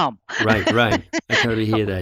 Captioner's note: laughs